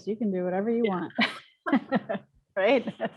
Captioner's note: laughter